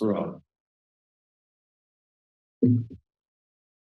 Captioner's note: silence